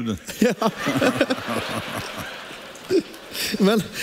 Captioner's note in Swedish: publiken skrattar